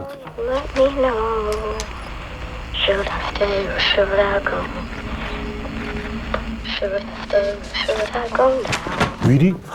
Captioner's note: will's voice coming from the walkie-talkie they each have